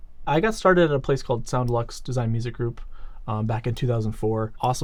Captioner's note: none